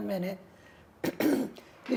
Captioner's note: clears throat